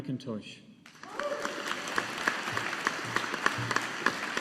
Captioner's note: audience applauding